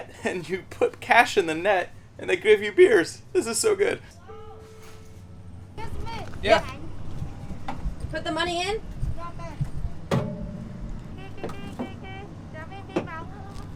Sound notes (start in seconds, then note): 5.0 shouting; 9.9 speaking foreign language